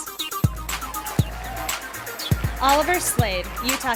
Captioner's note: sound of applause and cheering from the audience